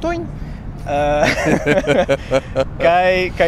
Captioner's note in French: rires